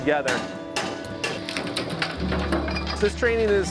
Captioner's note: hammering and wood cracking